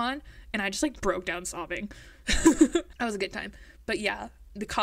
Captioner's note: laughs